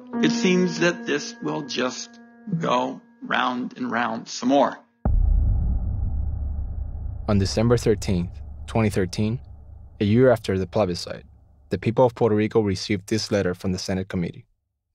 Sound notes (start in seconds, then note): 7.3 voiceover